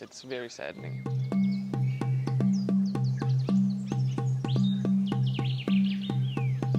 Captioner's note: birds chirping; rhythmic music